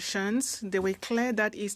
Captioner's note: speaking French